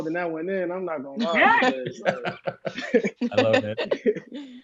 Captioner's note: laughs